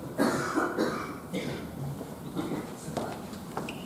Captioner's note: attendee coughing